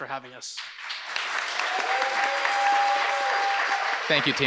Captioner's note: audience applauds and cheers